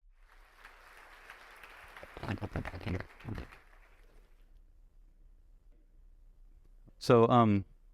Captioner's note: applause